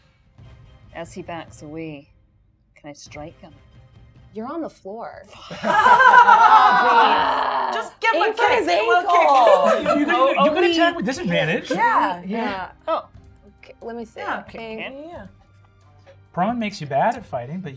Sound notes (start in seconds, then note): 5.3 gamers laughing